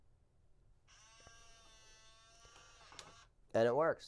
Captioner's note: buzzing